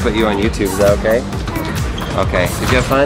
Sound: yelps

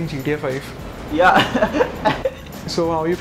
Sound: speaking foreign language; man laughing

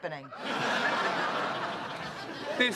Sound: laughter

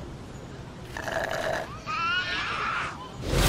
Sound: slurping; baby crying

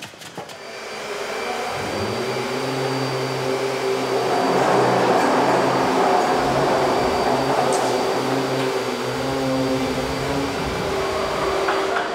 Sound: machine whirring

